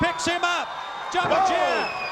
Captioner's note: crowd cheering